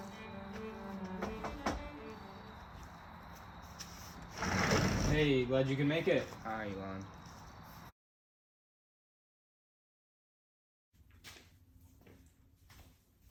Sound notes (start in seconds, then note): 1.1 knocking